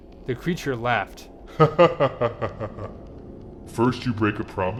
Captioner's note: laughing